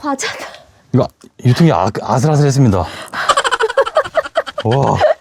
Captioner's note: laughs